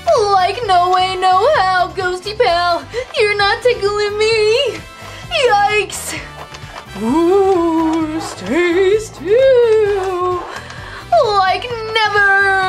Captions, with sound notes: Like, no way no how, ghostie pal! You're not tickling me! Yikes! (ghost wails) - Stay still. - Like, never!